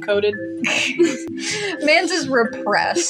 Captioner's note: chuckle; chortle